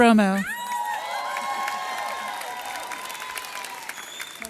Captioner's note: audience cheers